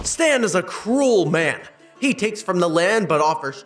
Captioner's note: none